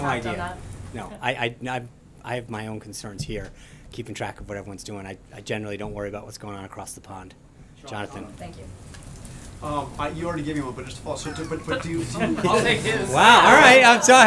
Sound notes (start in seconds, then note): 11.2 laughter